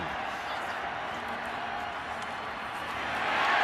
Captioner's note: crowd cheering